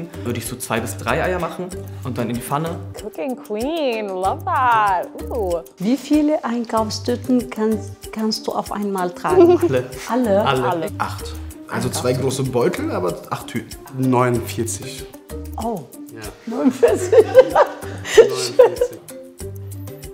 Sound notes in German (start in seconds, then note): 16.6 Lachen